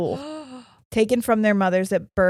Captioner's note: gasping